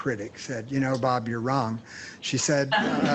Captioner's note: laughter